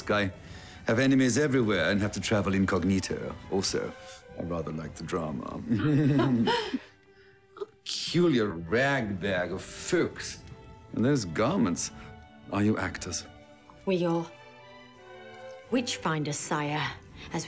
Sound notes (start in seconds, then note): 5.7 laughing